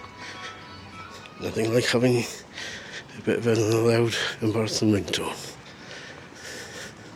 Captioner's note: loud ringtone